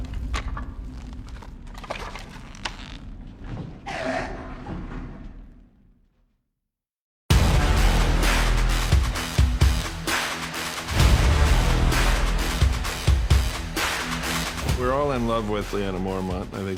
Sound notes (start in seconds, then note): 0.0 crackling; 3.7 snarling; 7.3 up-beat music plays